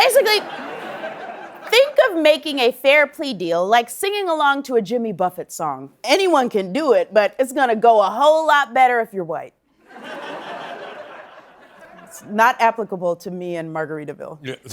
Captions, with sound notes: Basically, think of making a fair plea deal, like singing along to a Jimmy Buffett song. Anyone can do it, but it's gonna go a whole lot better if you're white. [laughter] It's not applicable to me and "Margaritaville."